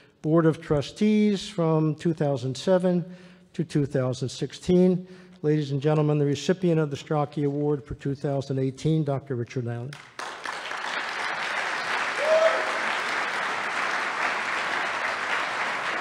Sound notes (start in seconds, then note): 9.9 applause